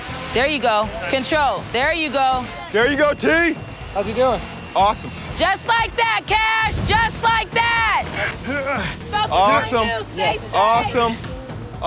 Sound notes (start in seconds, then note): 8.4 grunting